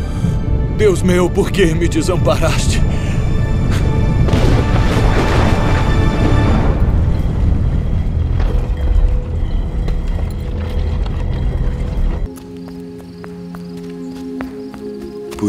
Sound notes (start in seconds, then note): 3.0 music and sound of thunder; 6.6 sound of rolling stone